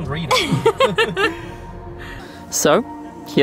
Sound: laughs

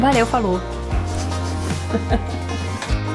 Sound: laughs

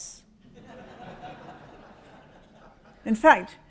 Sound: audience laughs

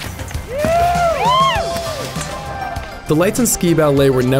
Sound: crowd cheering

